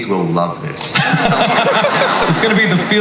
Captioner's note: audience laughs